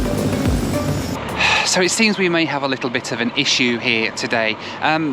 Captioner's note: sigh